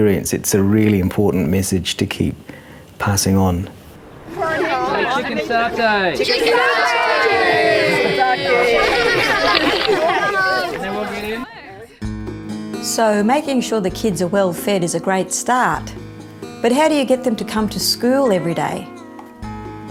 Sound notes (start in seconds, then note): 8.3 laughter; 9.4 camera clicks